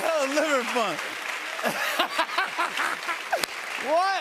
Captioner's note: laughing